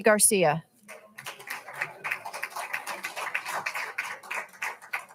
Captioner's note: all applauding